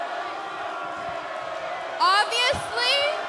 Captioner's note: fans chanting